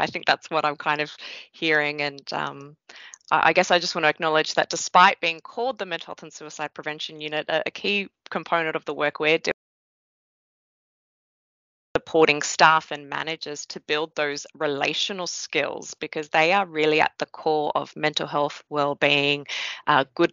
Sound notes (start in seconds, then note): 10.0 audio muted